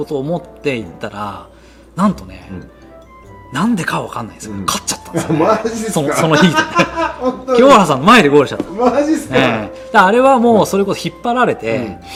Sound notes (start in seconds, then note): 6.1 laughs; 9.5 laughs